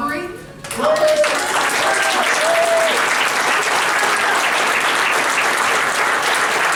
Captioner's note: cheers and applause